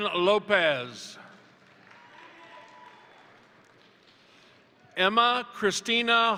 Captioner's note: crowd applauding; crowd cheering